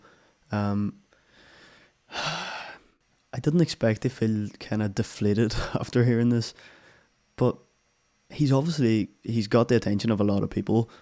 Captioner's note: sigh